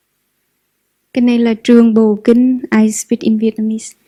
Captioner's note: Vietnamese